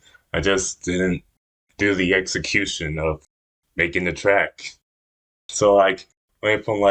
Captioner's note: none